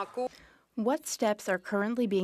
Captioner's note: speaking French